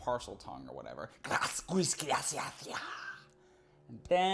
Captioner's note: hissing speech